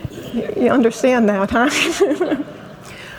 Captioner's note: laughs